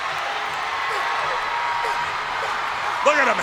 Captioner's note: crowd cheers